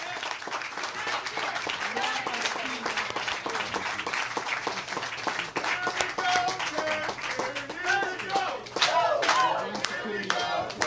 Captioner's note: cheers and applause